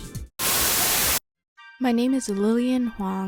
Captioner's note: Static